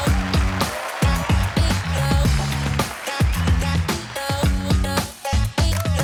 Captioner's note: applause - cheering